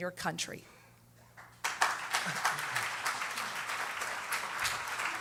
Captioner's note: applause